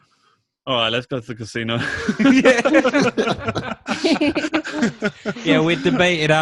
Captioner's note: everyone laughs